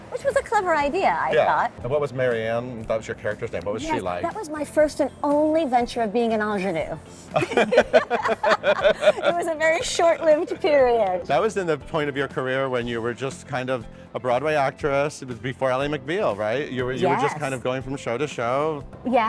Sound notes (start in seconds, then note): 7.3 both laugh